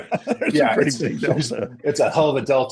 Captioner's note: laughs